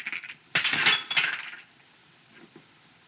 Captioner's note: glasses Shatter